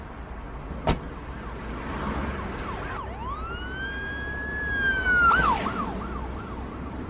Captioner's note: door slamming; siren blaring